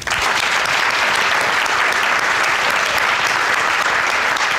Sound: audience applauding

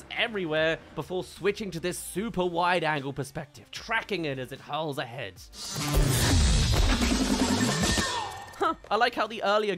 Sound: hurls, hits

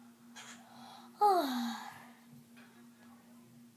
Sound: Luigi sighs

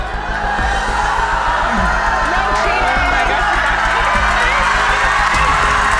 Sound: audience yelling louder

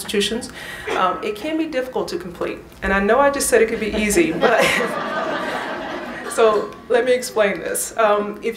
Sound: laugher

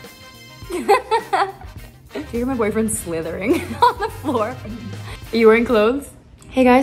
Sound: laughs

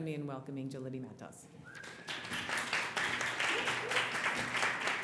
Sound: applause

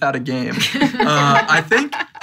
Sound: all laughing

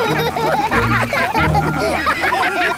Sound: all laugh

